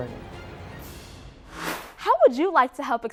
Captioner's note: sound Effects